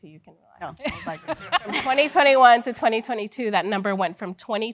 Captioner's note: laugh